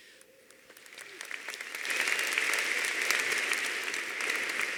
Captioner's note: audience applauding